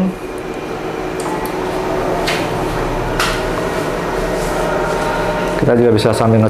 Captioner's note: pressing button sound